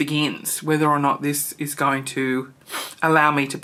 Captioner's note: sniffs